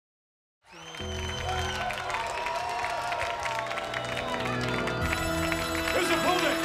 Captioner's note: crowd cheers; gong rings; funeral music plays